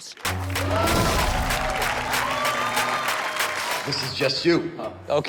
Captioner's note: audience applauds and cheers; bass music playing